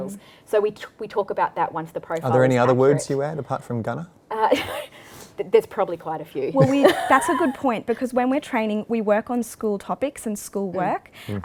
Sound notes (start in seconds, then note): 6.6 laughs